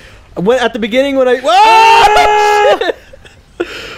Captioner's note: screaming; screams